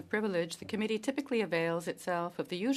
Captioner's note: speaking French